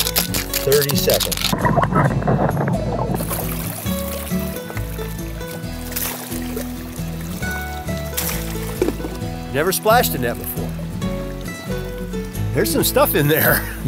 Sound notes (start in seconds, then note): 1.4 underwater bubbling; 5.4 water splashing